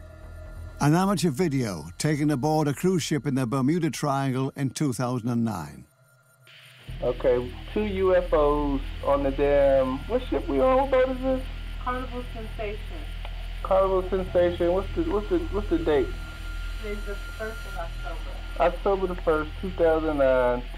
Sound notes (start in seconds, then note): 6.8 man on recording; 11.8 woman on recording